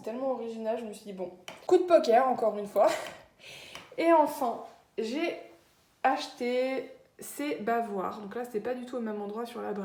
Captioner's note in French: rire